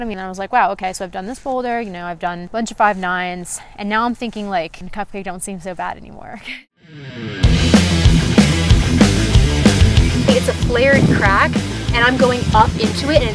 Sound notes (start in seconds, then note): 6.9 upbeat rock music; 7.0 laughs